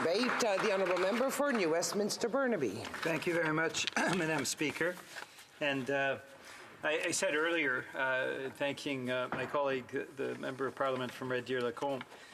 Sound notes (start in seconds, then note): 2.5 applause